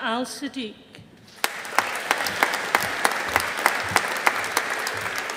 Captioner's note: audience applauding